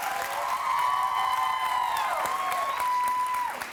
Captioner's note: applause